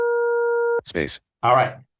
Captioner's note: computer indicator drones